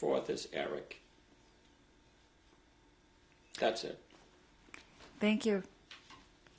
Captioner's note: pauses for 3 seconds